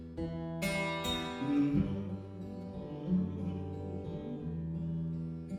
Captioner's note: humming